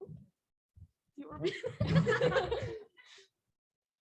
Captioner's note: laughing